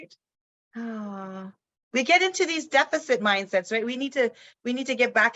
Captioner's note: sighs